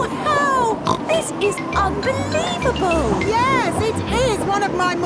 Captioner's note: snorts